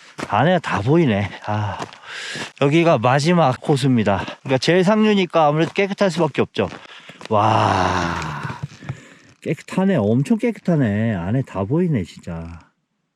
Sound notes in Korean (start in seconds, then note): 7.3 감탄